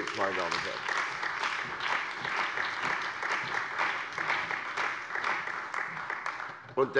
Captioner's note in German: Beifall bei der CDU und dem BÜNDNIS 90/DIE GRÜNEN